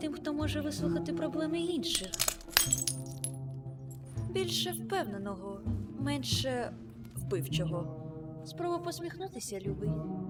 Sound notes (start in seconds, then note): 1.9 glass shatters